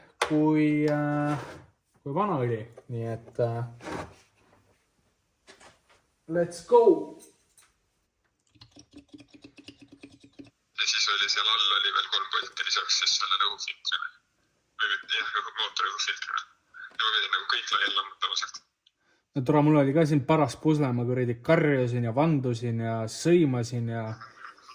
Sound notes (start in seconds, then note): 8.5 glug, glug, glug